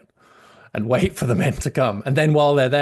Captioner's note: laughs